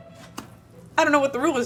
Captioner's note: pancake splattering